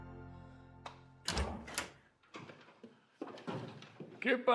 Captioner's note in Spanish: ruido al abrir puerta